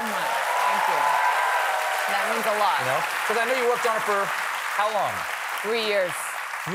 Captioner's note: applause